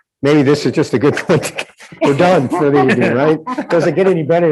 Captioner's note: laughs